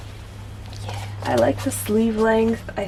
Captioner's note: whispers